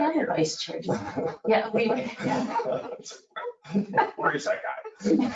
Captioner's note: laughing